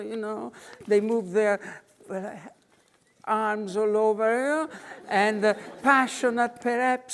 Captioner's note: audience laughing